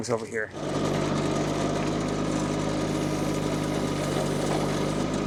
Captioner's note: machinery rumbles